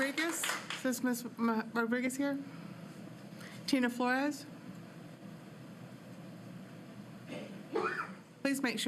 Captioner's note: applause